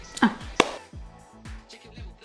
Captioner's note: hands clap